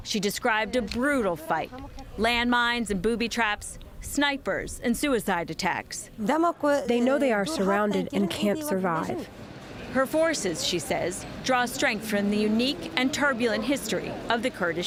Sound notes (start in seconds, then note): 6.5 through translator